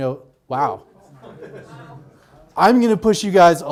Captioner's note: audience laughs